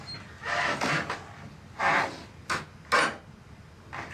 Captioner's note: door creaks